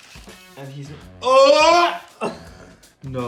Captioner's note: exclaims